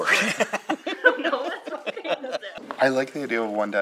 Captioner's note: laughter